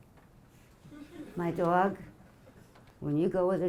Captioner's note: audience laughing